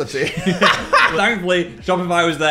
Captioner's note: Dan and Phil laughing